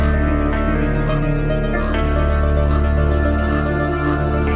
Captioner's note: crow cawing